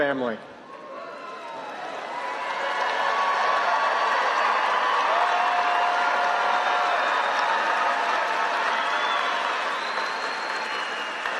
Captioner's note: applause